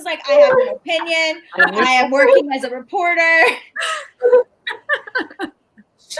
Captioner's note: laughing